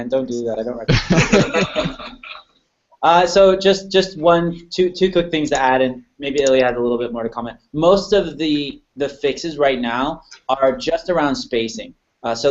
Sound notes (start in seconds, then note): 0.9 laughter